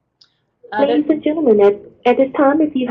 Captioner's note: voiceover